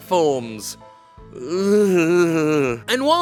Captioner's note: groaning